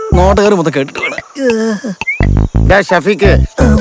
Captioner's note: groaning in pain